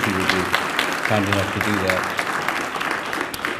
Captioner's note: applause